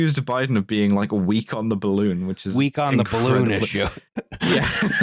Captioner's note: laughs